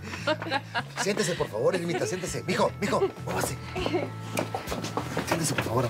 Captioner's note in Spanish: risas